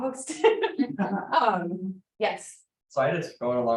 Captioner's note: laughs